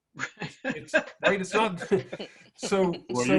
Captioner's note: laughs